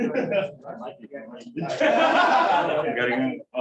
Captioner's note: laughter